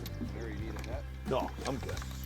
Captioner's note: voiceover